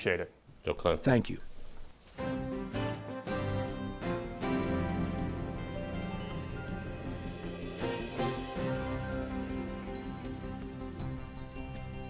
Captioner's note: through translator